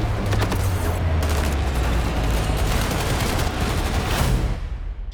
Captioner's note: shooting